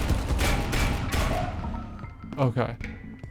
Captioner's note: gunshots